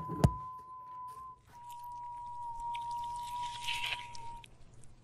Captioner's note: whistling; flesh squelching